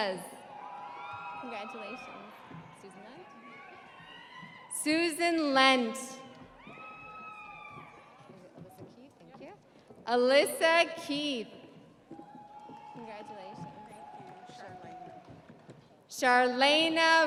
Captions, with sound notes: Jackleen Sandovall Hernandez. (audience applauding) (audience cheering) Susan Lent. (audience cheering) Alyssa Keath.